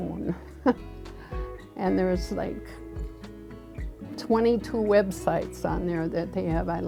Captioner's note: chuckles